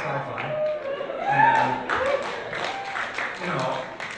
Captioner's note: applause